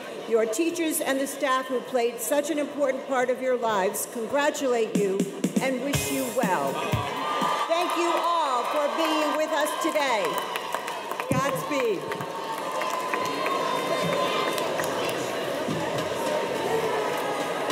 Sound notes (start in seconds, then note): 12.6 excited chatter